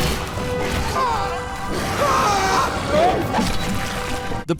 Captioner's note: grunting